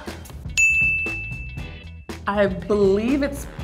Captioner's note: dings